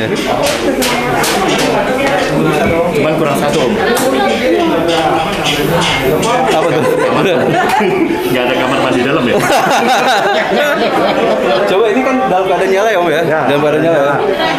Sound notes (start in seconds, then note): 0.2 distant chattering; 5.4 laughing; 10.3 laughing